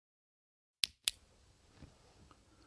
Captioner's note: click